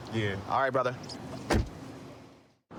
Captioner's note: door shuts